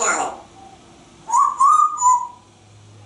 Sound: whistling

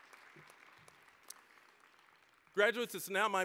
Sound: applause, cheering; applause

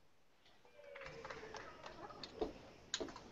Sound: applause

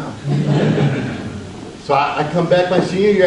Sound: audience laughs

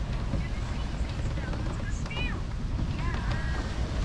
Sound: wind blowing; radio playing

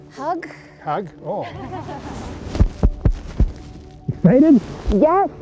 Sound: chuckling

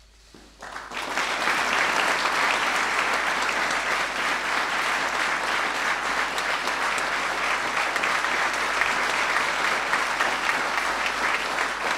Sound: applause

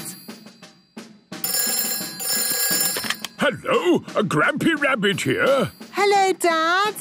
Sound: phone ringing

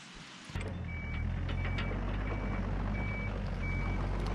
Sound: excavator back raking

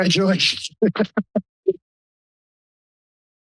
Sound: laughs

